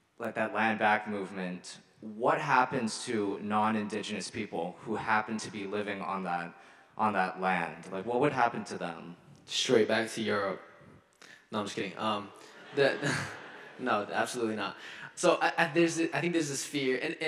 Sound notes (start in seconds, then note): 12.5 audience laughing; 12.5 chuckles